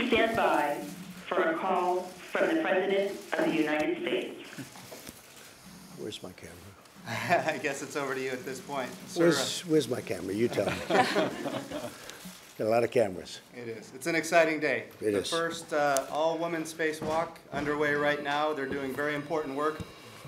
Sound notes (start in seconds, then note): 7.0 laughs; 10.6 laughter